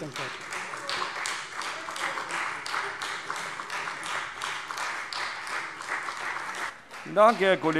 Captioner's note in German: Beifall Freie Demokraten und CDU